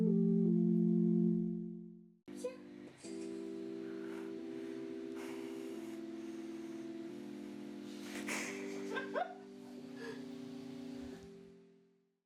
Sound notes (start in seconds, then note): 8.2 player 2 laughs